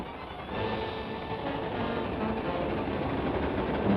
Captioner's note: train chugs